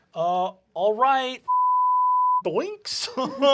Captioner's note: deep voice